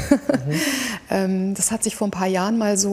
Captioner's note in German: Lachen